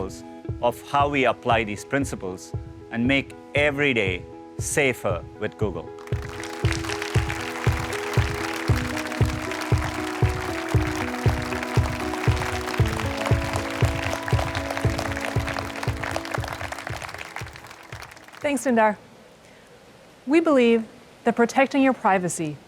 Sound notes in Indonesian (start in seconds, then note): 5.3 Tepuk tangan